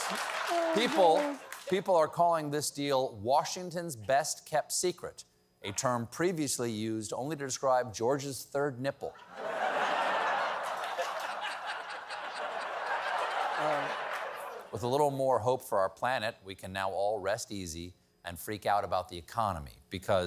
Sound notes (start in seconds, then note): 9.1 laughter